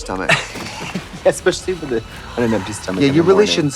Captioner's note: laughs